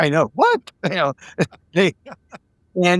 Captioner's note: laughing